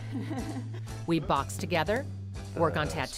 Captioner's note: laughing